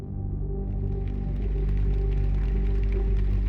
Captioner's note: calm electronic music; applause